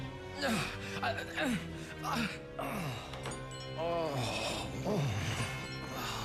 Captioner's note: grunting